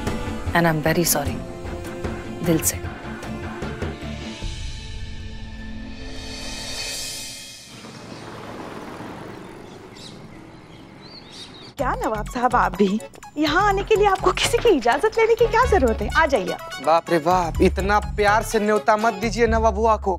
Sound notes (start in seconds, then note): 7.6 vehicles noise; 7.6 birds chirping